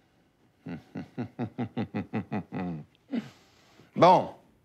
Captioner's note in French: rire forcé